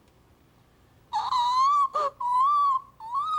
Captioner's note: squealing